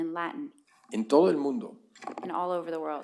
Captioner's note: speaking spanish